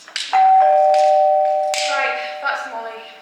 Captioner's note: doorbell rings